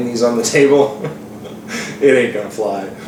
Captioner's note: chuckles